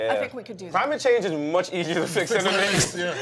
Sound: laughing

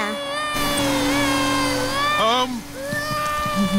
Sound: crying

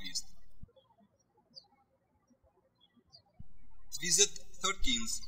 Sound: birds chirping

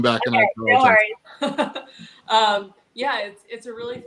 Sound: laughs

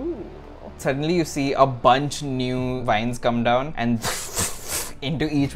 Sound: swoosh

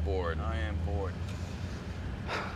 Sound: sighs

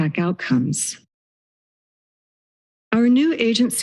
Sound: silence

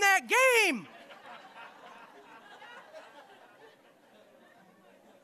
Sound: audience laughing

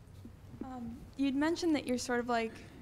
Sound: voiceover

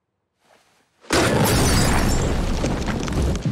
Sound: shattering

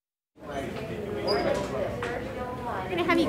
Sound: background chatter

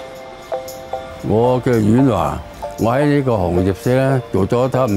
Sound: foreign language

